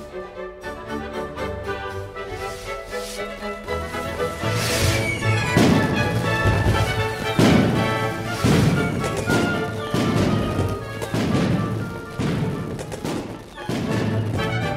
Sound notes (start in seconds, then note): 0.3 lively orchestral music; 4.9 fireworks bursting